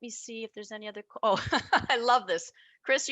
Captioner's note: chuckling